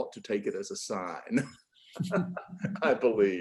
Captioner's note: laughing